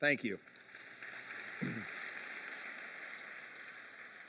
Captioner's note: applause